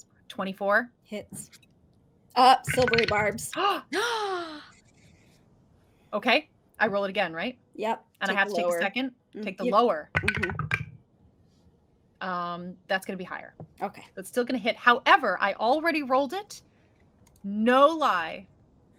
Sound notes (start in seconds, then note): 3.9 gasps; 10.2 dice rolling